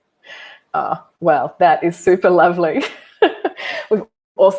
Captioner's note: chuckles